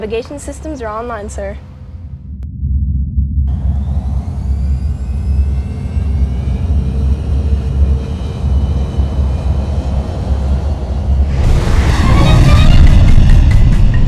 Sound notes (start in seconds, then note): 3.5 engine revving; 12.9 instrumental music